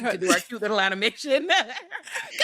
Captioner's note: laughing